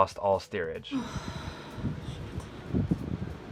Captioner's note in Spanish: viento